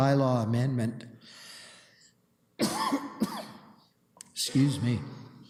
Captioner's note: coughs